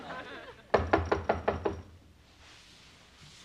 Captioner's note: knocking on door